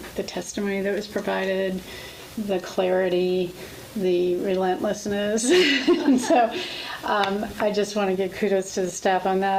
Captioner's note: laughs